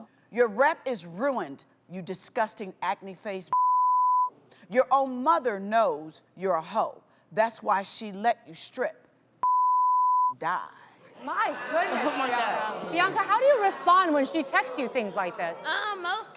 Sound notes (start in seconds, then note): 3.5 beep; 9.4 beep